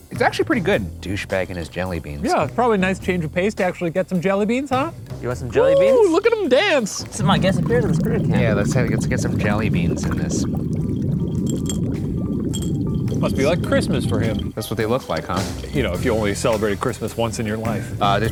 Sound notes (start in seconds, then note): 10.2 liquid bubbling; 10.9 glass clinking; 11.3 placid music